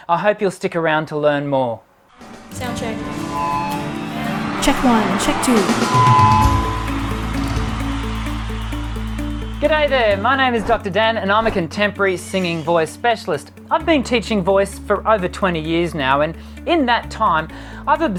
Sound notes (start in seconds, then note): 4.6 applause; 6.1 bright music